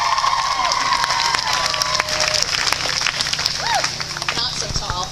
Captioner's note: clapping